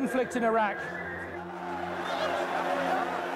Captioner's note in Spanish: gritos